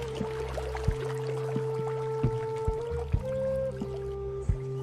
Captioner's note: water bubbling